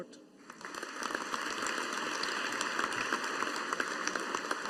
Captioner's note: audience applauding